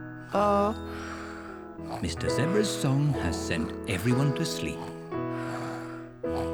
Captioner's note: all snore